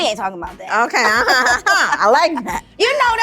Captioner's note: laughing